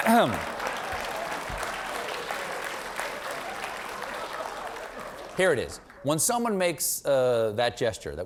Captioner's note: applause